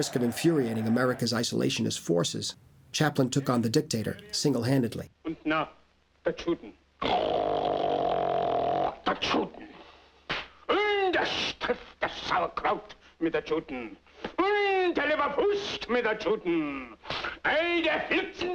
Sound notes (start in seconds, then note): 7.3 loud Snorting; 11.3 shouting In Mock German